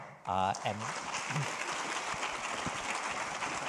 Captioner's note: audience applauding